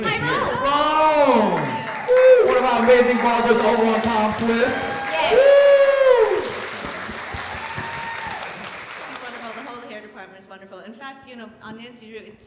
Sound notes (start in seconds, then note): 5.2 audience cheering